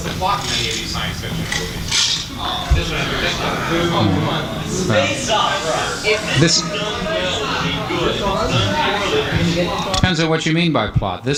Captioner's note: audience grumbling